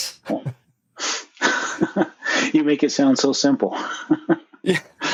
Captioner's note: laughs